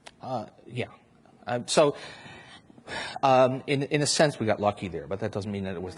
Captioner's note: sighs